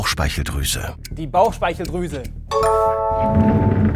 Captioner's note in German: Klingeln